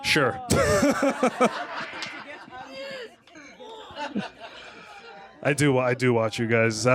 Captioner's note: laughter